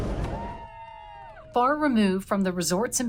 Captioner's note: students cheering